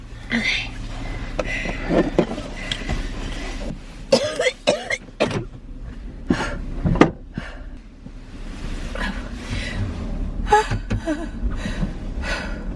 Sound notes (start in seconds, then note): 0.1 breathing heavily; 4.1 coughing; 7.2 breathing heavily